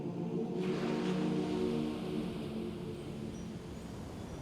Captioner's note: waves crashing